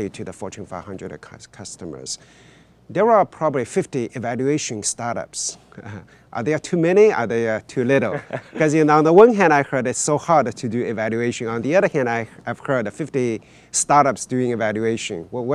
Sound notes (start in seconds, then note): 5.7 chuckles; 7.8 speakers chuckling